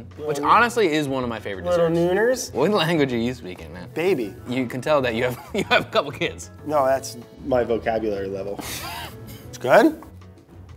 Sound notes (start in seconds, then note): 5.3 chuckles; 8.7 laughs